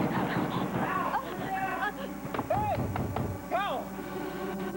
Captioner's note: pounding on door